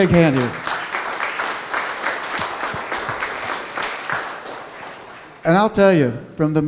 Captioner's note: applause